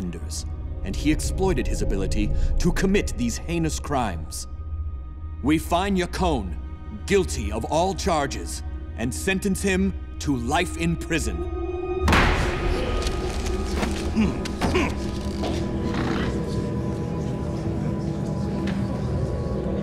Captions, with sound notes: and he exploited his ability to commit these heinous crimes. We find Yakone guilty of all charges and sentence him to life in prison. [grunting]